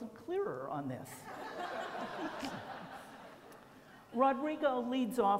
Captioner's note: laughter